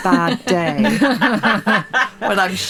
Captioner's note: group laughing